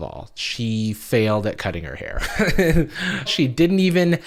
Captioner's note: laughs